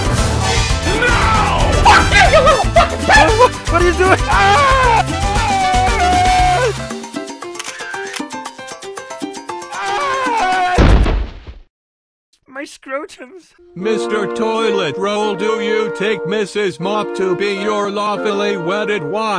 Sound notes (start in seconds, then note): 4.2 screams; 7.5 camera snaps